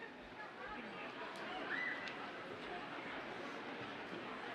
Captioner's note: audience chattering